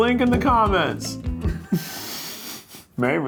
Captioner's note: laughing